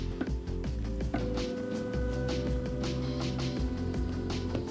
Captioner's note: device whirs